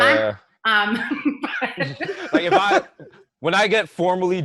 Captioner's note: laughter